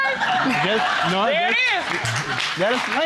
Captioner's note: audience laughing